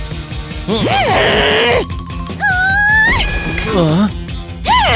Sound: growling

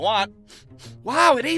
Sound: sniffs

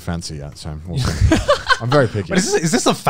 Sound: laughs

